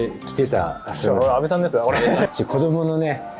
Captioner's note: laughs